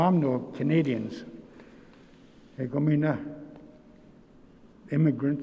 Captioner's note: speaking in Nêhiyawêwin